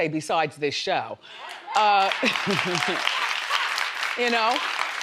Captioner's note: crowd applauding